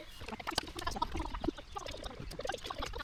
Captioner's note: water bubbling